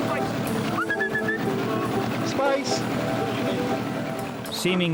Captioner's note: he whistles the dog